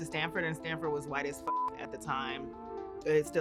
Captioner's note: beep